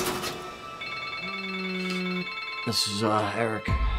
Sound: car crashes; phone rings

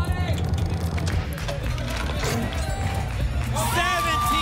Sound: cash register sounds

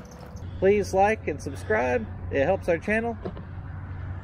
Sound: coaching voice

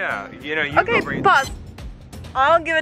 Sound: machine bleeps

